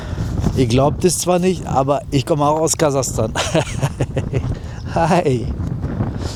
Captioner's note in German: gelächter